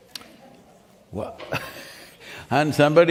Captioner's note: laughs